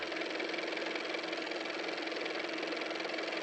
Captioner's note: car motor